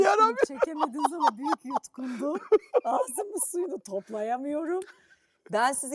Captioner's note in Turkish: kahkaha